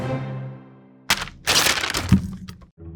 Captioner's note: patties thudding; wrapper rustling